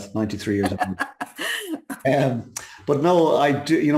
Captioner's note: laughing